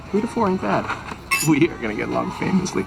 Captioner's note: glasses clanking